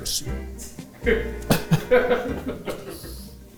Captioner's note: cast laughing